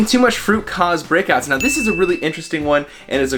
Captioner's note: bell ringing